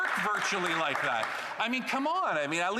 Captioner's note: applause